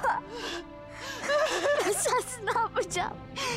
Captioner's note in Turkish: Ağlama sesi